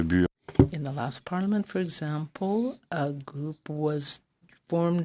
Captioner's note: speaking French